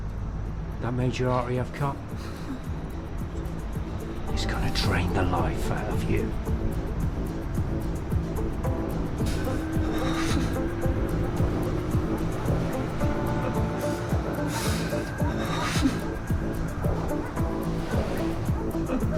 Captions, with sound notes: That major artery I've cut, it's gonna drain the life out of you. (dramatic music) (Sean moaning) (dramatic music)